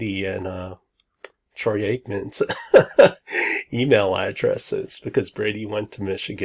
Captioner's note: laughs